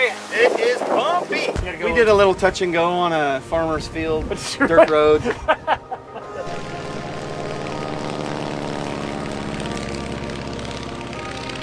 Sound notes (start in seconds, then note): 4.3 man laughing; 6.1 plane whizzing; 6.1 soft music